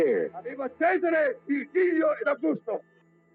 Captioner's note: speaking German